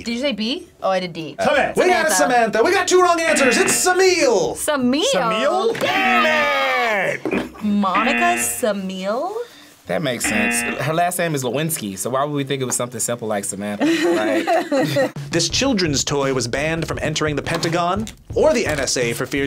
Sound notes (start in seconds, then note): 7.9 buzzer; 13.8 both laugh